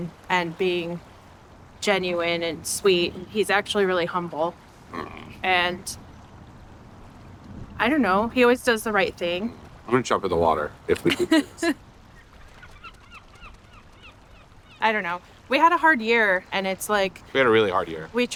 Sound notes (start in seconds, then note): 11.0 laughs; 12.1 birds squawking